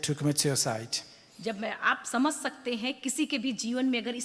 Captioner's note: speaks foreign language